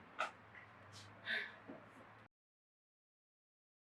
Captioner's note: sigh